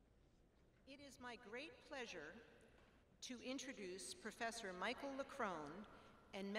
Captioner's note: none